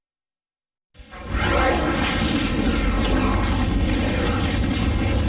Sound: dramatic twister and helicopter sounds

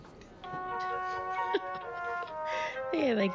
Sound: laughing

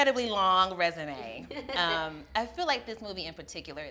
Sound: laughs

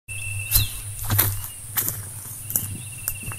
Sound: footsteps

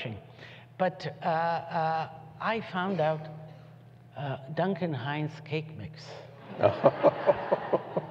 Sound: laughter

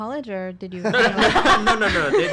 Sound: laughter

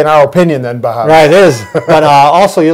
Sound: laughing

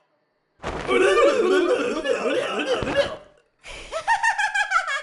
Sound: blubbers; laughing

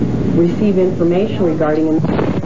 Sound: explosion

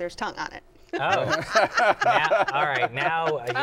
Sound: laughs

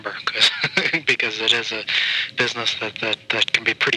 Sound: chuckles

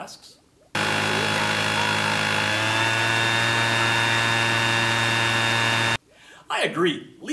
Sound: loud leaf blower noises

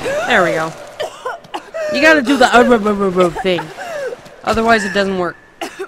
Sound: mouth noises

